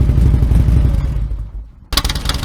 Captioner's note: engine off; stock muffler sound